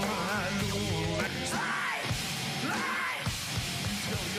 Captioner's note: rock music; singer screams